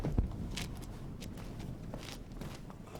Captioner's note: footsteps